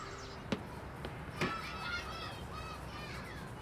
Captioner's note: children laughing and shouting